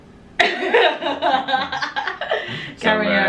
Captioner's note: laughing